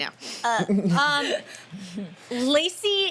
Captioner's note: laughing